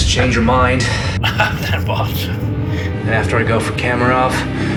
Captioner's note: laughs